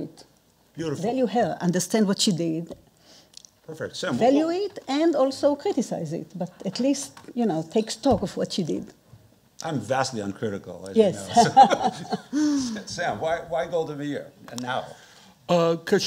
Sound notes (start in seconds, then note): 11.3 chuckling